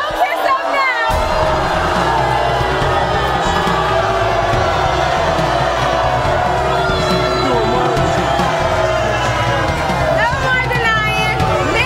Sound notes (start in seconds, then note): 1.6 audience booing